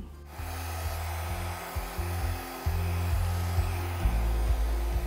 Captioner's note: hair dryer blowing